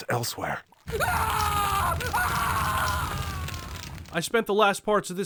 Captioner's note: agonized scream